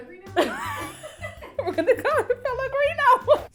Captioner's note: laughing